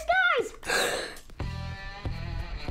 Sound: gasps; fun music

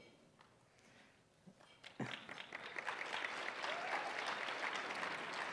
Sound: applause

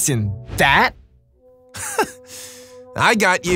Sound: sighs

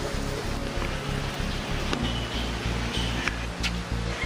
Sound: rain falling

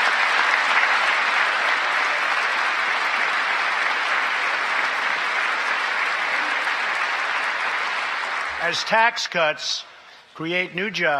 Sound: applause

